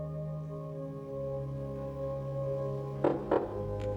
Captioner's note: knock at door